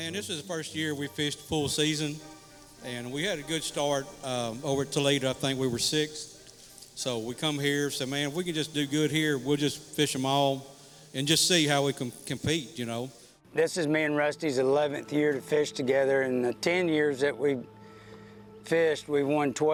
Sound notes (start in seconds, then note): none